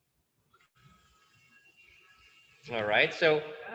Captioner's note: Dremel buzzing